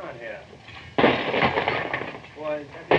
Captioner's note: loud clattering